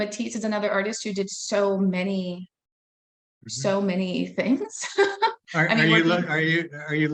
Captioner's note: laughing